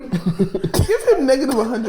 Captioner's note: group laughing